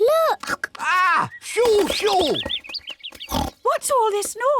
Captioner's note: birds tweet; oinks